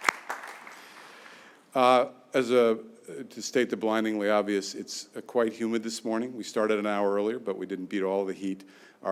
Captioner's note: applause